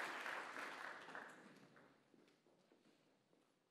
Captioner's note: applause